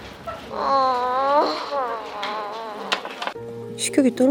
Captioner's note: she whines